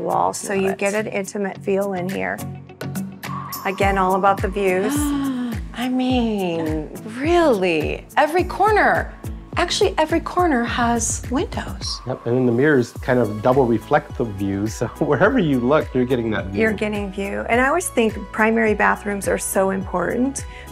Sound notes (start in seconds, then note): 2.4 calm music; 4.9 gasping